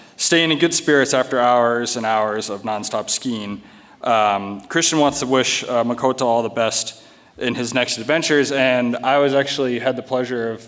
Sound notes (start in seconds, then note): none